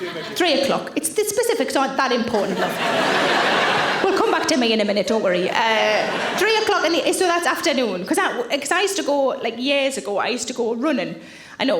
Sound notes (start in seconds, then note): 2.3 audience laughing